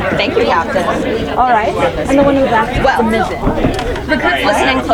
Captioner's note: people chattering